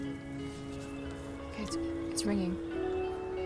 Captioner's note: ringing